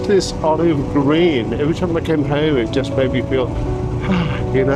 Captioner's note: sigh